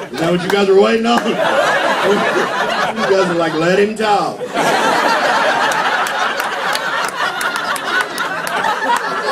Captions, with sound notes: Is that what you guys are waitin' on? (laughter) You guys are like, "Let him talk. (laughter)